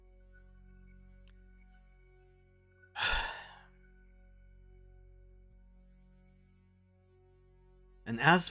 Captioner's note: deep Breath